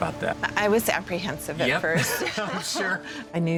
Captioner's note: laughing